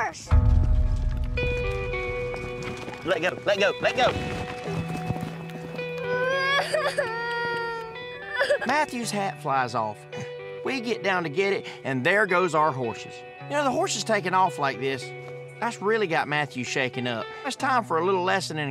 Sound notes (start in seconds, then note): 1.1 hoof beats running away; 6.0 crying